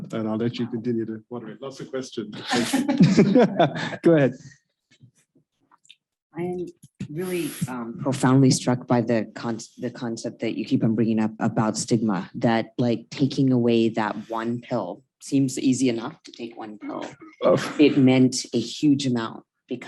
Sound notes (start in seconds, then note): 1.8 chuckles